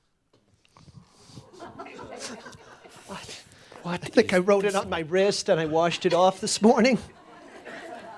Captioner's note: some chuckles